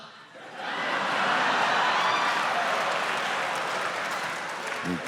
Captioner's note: audience laughing